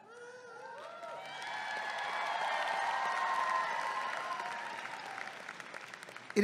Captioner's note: audience clapping and cheering